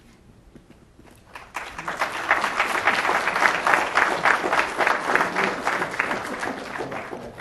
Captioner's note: applause